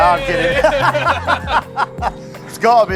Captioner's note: both laugh